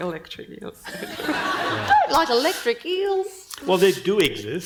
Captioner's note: panel and audience laughing